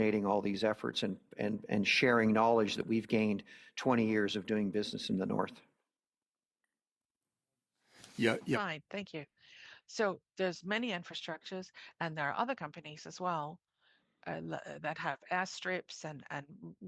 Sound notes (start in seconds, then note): 14.7 speaking in French